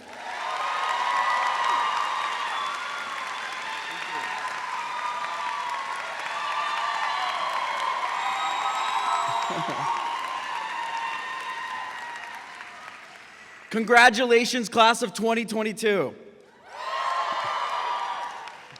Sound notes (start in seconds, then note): 0.3 graduates clapping and cheering; 6.0 graduates clapping and cheering; 9.3 chuckling; 16.6 graduates cheering